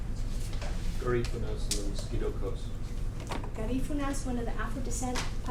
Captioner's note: speaks foreign language